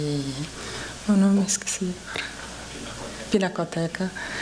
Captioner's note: speaking portuguese